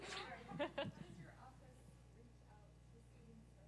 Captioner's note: laugh